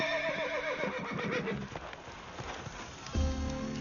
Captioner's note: horses neigh